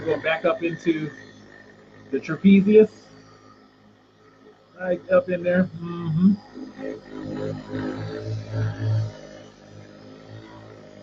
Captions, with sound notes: and I'm going back up into the trapezius. Right up in there, mm-hmm. (Myobuddy buzzing)